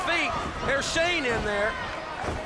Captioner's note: crowd chatter